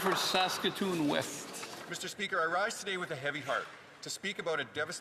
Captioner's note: some Applause